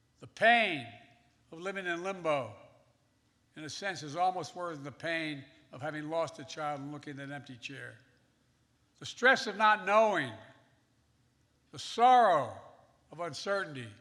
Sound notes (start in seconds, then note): none